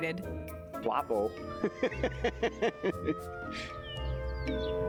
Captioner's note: chuckling